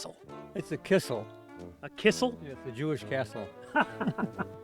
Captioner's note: laughing